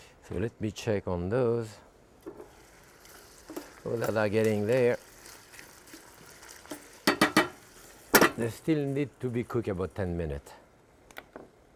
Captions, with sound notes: So let me check on those. Ooh-la-la, getting there. (pan sizzling) (utensil tapping) They still need to be cooked about 10 minutes.